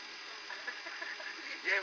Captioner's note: laughter